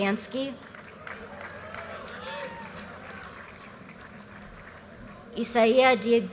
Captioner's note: audience cheers and applause